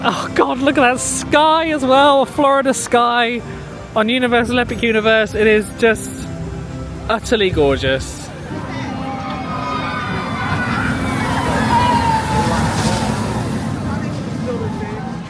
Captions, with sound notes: Oh God, look at that sky as well. A Florida sky on Universal Epic Universe, it is just utterly gorgeous. (riders screaming) (crowd chattering)